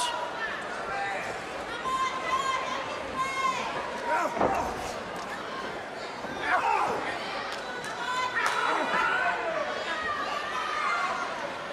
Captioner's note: crowd chatter